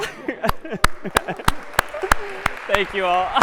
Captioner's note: laughs; applause